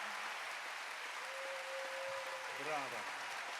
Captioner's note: applause